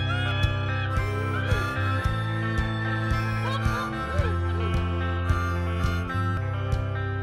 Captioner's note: weird animal sounds